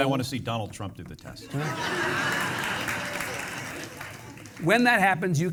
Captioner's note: audience laughing